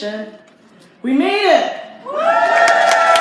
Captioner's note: crowd cheers